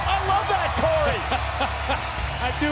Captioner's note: laugh